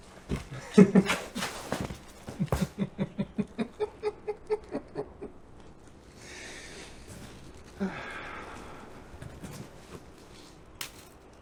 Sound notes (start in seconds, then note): 0.7 Patrick laughs; 7.7 Patrick exhales